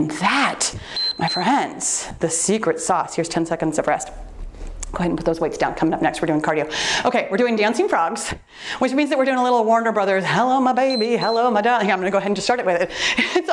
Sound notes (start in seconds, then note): 0.8 timer beeps; 10.8 timer beeps